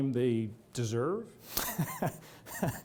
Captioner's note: laughter